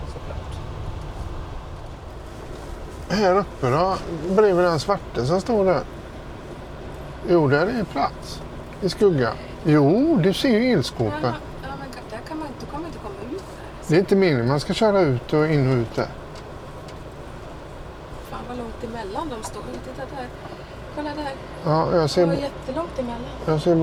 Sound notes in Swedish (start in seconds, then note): 3.9 harklar sig